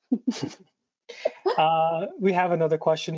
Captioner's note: presenters laughs